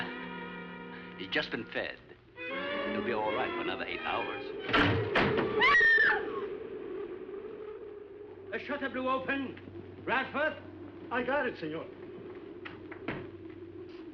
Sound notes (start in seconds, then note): 4.6 crashing; 5.6 screams